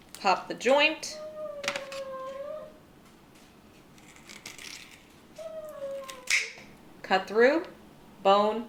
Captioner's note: dog whining